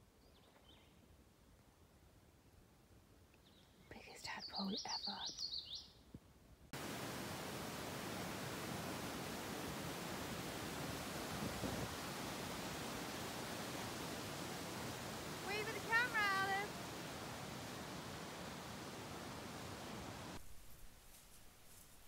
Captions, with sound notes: (whispers) The biggest tadpole ever. Wave at the camera Alice!